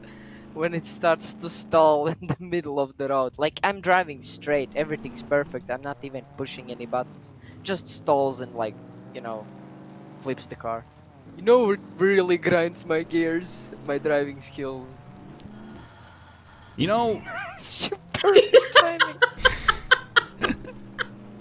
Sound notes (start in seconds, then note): 15.4 sound of Gears Griding; 16.9 laughs